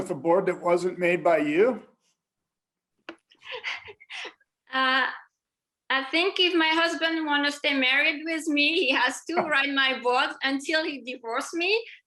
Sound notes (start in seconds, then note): 3.4 laughter